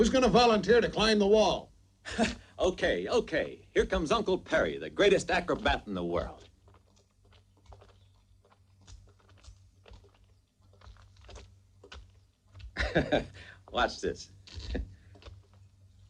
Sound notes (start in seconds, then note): 12.6 laughs